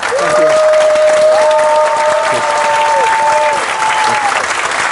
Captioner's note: audience cheering